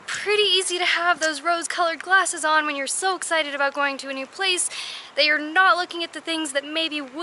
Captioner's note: none